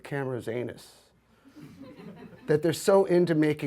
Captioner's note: audience laughs